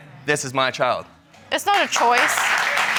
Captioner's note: applause